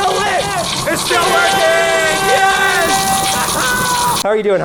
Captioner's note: air horn